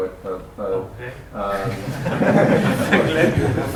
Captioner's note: laughter